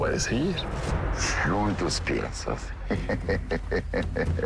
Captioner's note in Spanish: Risas